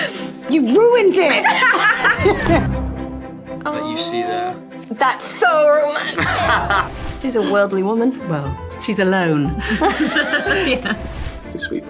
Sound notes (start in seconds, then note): 1.2 all laughing; 1.4 both laughing; 6.0 Luke laughing; 6.8 scene whooshing; 9.6 all laughing; 11.1 scene whooshing